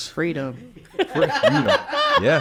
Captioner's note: group laughing